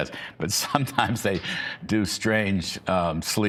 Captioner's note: laughter